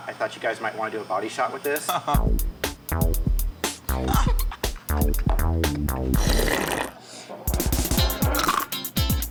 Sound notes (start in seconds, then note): 2.1 energetic music; 2.2 laughs; 3.9 laughing; 8.0 slurping